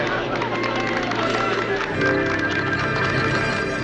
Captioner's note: all applaud